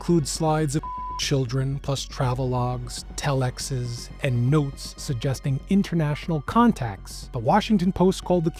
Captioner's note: beep